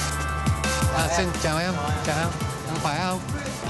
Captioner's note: all converse in vietnamese